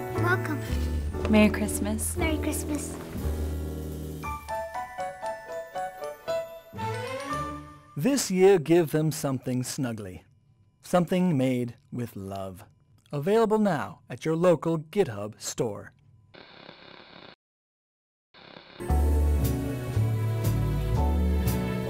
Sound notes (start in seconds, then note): 16.3 static; 18.8 christmas music